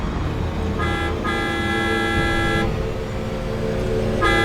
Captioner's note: horn honking